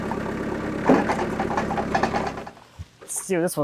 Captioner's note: slab thumping